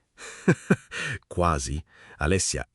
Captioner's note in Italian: Haha